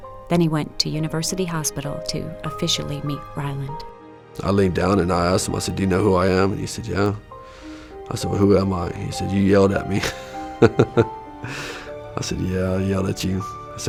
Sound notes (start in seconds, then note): 9.9 laughs